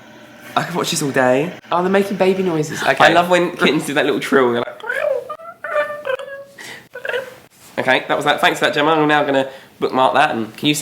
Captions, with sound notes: - I could watch this all day. - Aw, they're making baby noises. - I love when kittens do that little trill were they're like (meows). Okay, that was that. Thanks for that Gemma, we're now gonna bookmark that and